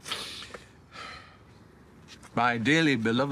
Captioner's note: he exhales